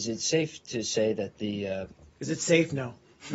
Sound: laughter

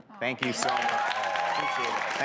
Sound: audience applause

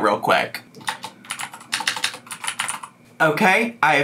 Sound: keyboard clacking

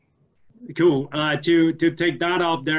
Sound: laughing

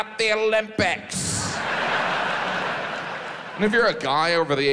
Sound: audience laughs

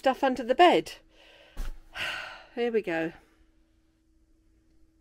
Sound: sigh

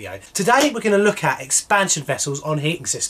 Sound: claps

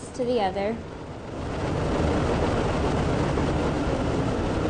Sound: machine rattles

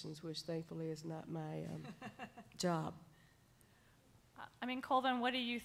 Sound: laughing

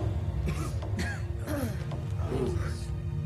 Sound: coughing

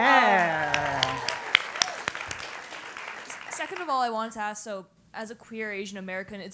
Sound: applause

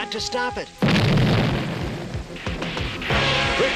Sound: explosive bang

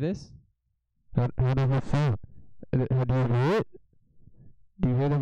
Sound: loud muffled mic noises

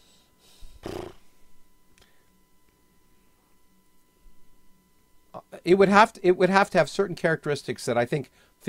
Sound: sighs

